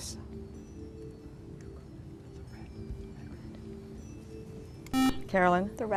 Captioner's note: whispering